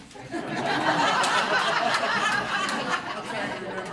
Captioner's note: laughing